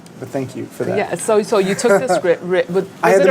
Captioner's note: laughs